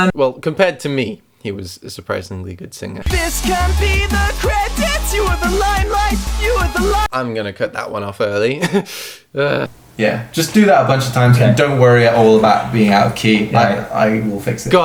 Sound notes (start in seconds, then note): 2.9 singing; 8.5 laughs; 9.3 groans